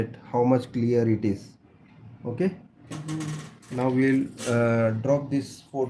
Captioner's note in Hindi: नाक से की जाने वाली आवाज़